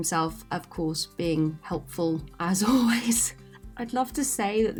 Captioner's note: laughs